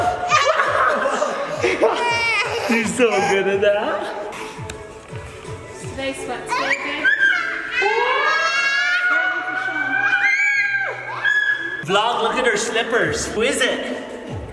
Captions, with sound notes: (laughing) She's so good at that. - [Woman's Voice] Is today sweats day babe? (squealing) - Vlog, look at her slippers, who is it?